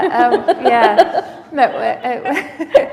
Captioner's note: laughter